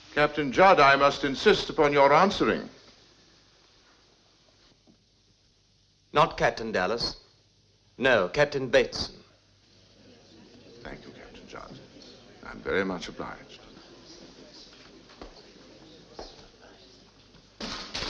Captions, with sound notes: Captain Judd, I must insist upon your answering. - Not Captain Dallas. No, Captain Bateson. Thank you, Captain Judd. I'm very much obliged. (people chattering)